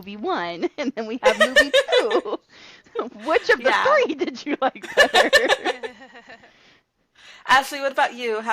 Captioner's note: laughter